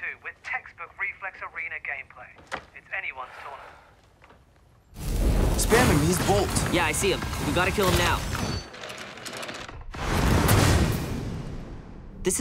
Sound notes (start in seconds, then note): 3.3 sighing; 5.1 wind rushing; 9.3 keyboard clicking; 10.4 guns firing